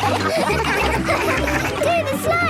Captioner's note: all laughing